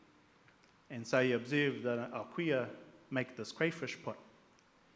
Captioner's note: speaks in Maori